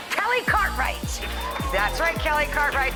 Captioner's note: audience cheers